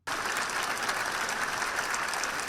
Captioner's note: applause